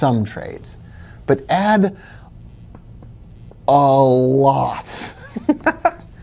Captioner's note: giggling